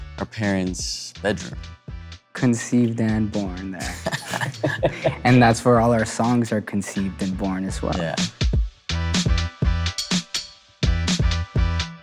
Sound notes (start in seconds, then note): 3.8 musicians chuckle; 10.8 upbeat music